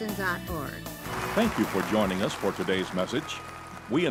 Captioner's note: voice-over